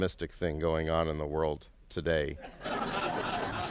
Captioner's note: laughter